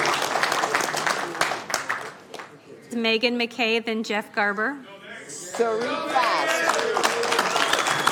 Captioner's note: applause